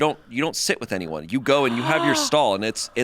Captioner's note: gasps